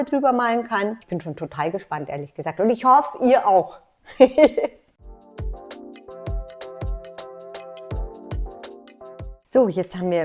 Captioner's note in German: lacht